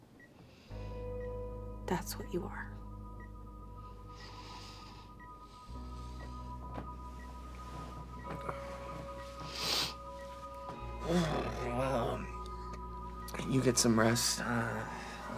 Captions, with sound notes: that's what you are. [dramatic electronic music] [Drew snivels] [Drew groans] - You get some rest, uh,